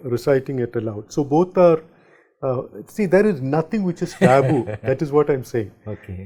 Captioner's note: ha ha ha